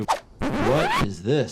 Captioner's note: record scratching